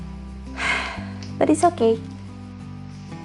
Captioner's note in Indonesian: sigh